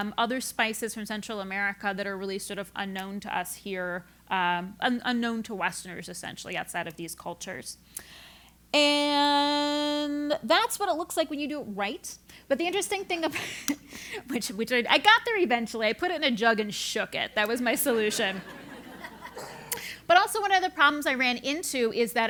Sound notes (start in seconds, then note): 14.0 laugh; 17.8 laugh